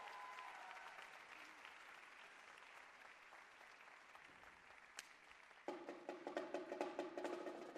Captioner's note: cheers and applause